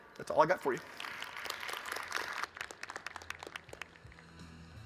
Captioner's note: audience clapping